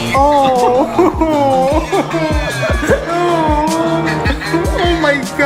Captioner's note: Jeffree laughing; Shane giggling